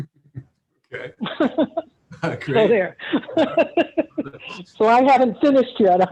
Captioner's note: laughs